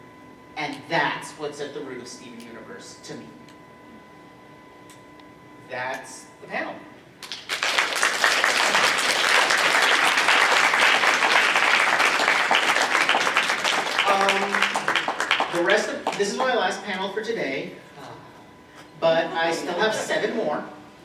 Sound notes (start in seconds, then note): 6.8 applause